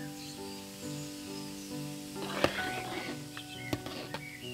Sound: water hisses

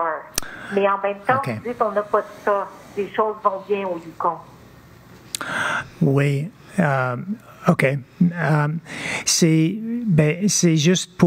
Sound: speaking French

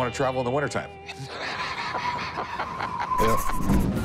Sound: laughter

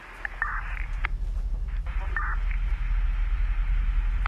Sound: police radio chatter

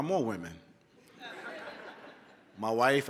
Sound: laughter

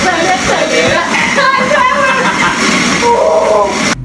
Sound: laughs

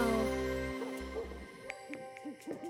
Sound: barking in the distance; owl hooting

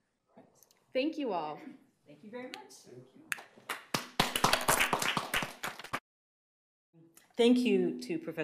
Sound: audience applause

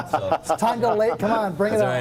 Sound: laughing

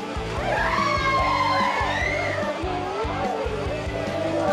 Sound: upbeat music; people shouting; upbeat music

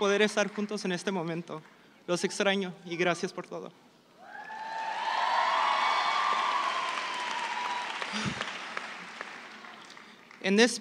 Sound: applause

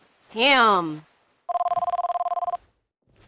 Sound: ringing Continues

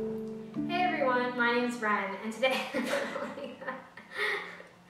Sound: laughs

